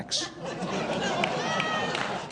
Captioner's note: audience laughs